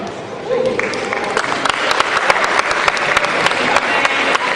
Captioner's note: cheering